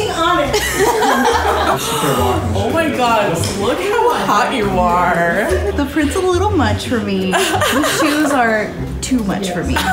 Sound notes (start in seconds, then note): 0.5 laughing; 1.7 gasps